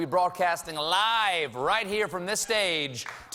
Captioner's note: cheers and applause